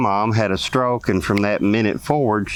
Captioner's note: snaps